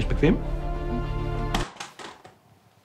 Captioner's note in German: Klappern